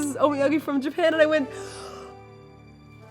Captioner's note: gasp